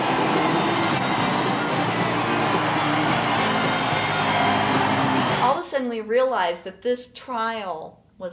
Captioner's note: screams, shouts and outrageous yodeling